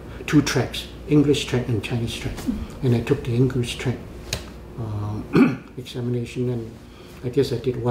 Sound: coughs

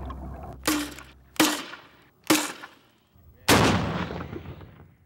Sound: guns firing

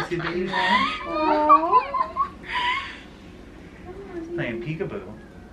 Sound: laughing

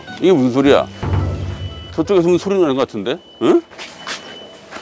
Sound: sudden sound of alarm?

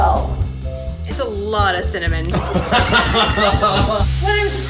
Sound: laughs

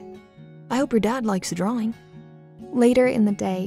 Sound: voiceover

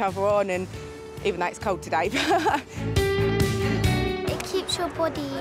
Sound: laughs

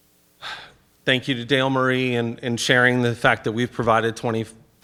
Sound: sighs

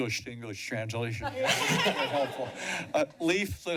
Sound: laughter

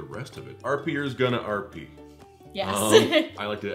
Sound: laughs

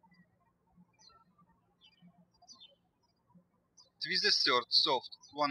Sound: birds chirping

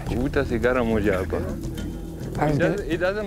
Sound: speaks Tanzanian

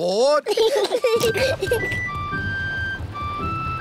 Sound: peppa and george giggling

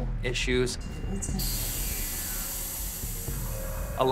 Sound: static crackling

